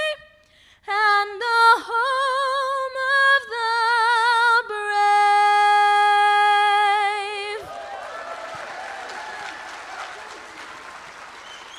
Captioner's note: screaming